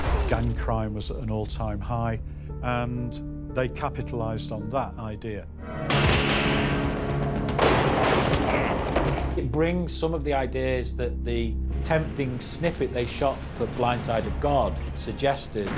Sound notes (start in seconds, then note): 5.9 gun blasts; 5.9 intense music